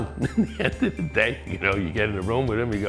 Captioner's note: laughs